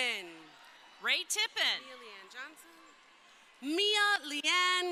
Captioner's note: crowd cheering